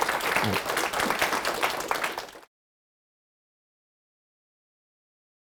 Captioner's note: audience applauding